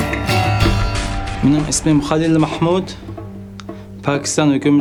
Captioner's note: speaking foreign language